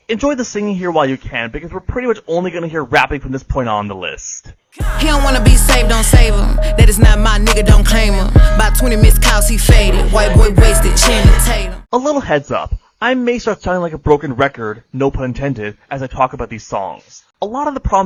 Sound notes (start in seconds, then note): 7.5 slur